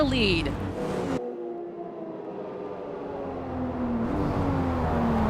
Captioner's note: engines roaring